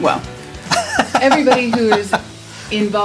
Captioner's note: laughs